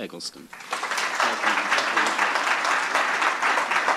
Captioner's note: applause